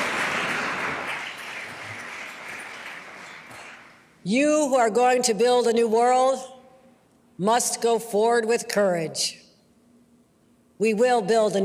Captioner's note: applause